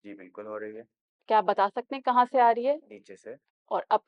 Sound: in Urdu

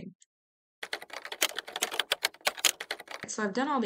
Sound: sound of typing

